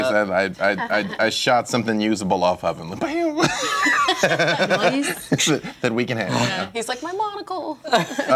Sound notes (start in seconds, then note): 3.4 laughs; 7.8 laughter